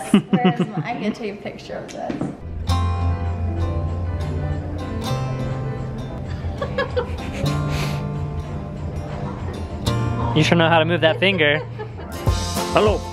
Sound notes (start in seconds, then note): 2.6 light guitar music; 6.2 laughing; 11.0 laughing